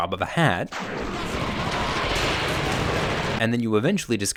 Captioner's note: gun shooting